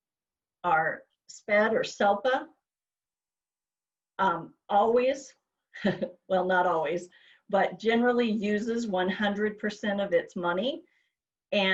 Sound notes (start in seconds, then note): 3.0 chuckles